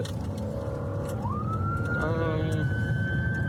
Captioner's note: siren wailing